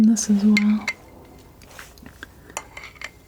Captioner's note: scratching